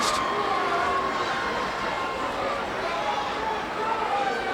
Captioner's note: crowd cheering